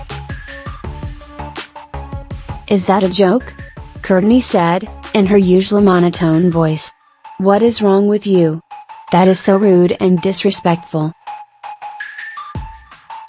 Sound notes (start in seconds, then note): 4.9 in her usual monotone voice